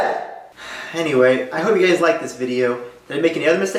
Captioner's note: sigh